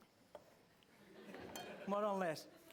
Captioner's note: laughter